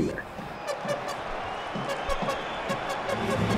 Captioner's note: horn blowing